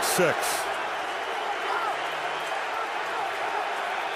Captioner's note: crowd cheering